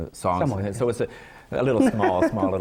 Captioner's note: laughs